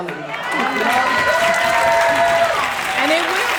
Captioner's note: audience applauding; cheering and clapping